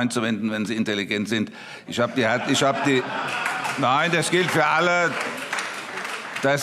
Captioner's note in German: Vereinzelte Heiterkeit und Beifall